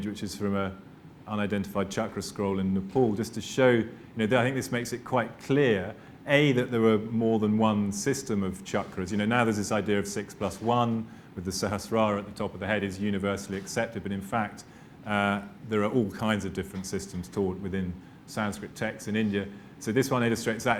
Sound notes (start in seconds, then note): 11.5 non-english